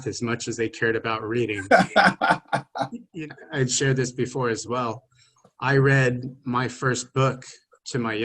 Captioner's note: both laughing